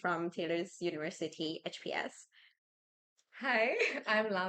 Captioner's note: laughs